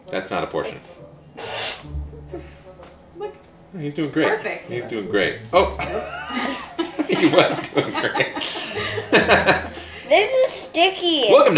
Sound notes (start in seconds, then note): 5.7 laughs